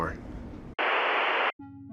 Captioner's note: static